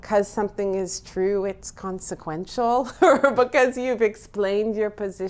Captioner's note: laughs